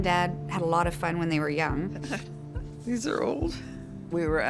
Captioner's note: laughs